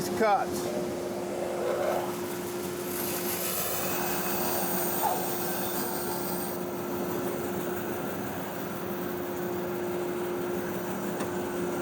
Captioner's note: bandsaw whirring